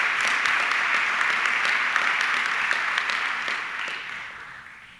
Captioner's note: audience clapping continues